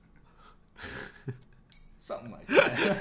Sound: giggling

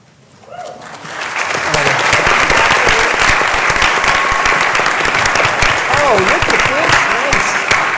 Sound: applause

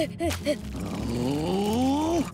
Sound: growling

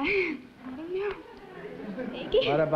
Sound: nervous laugh

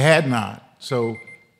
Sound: alarm beeping

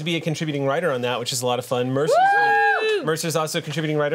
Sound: group cheers

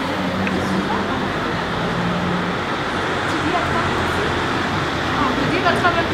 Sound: sounds of a happy peaceful neighbourhood

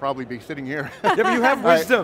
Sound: laughs

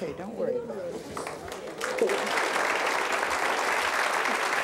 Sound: applause

